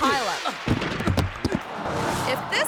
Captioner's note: bodies thudding